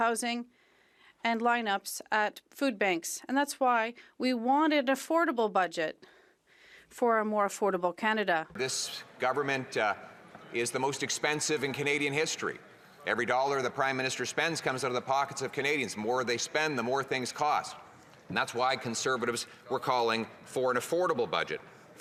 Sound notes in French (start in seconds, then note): 14.8 voix de l'interprète